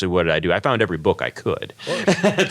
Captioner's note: laugh